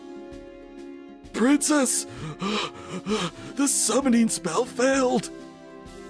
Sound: old Man Wheeze

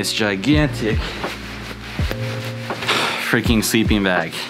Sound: sleeping bag rustles

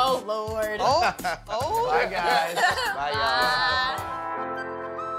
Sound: laughs

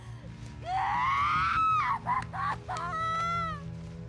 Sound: screaming

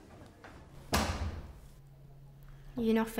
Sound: door slams

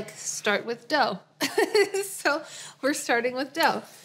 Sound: laughs

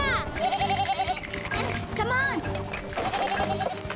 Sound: bleating

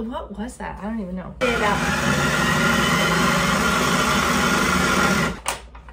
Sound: blender whirring

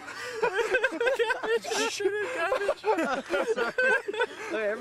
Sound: laughter

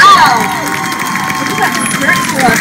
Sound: cheering/clapping

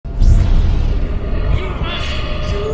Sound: Lightsaber ignites

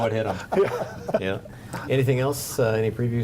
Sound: laughing

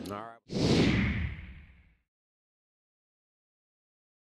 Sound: swish

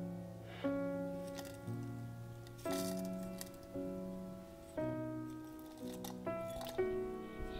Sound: tea pot lid opens; tea sprinkles onto hot water

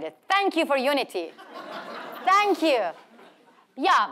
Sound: audience laughing

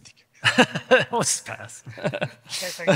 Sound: laughing

